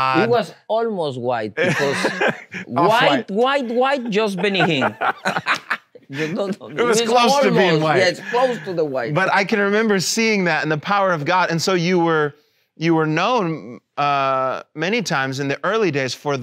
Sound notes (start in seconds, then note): 1.6 laughs; 5.5 laughing